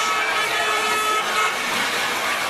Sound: car horn

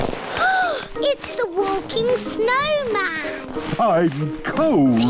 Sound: gasps

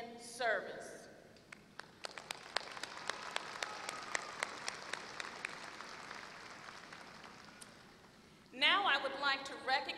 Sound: applause

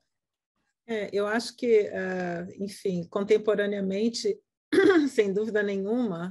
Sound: speaking in Portuguese

